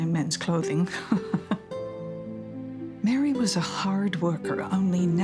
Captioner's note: chuckling